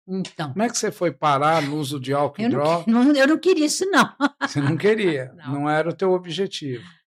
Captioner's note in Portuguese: risadas